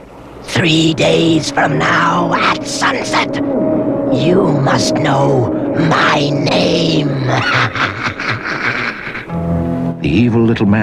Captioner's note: laughs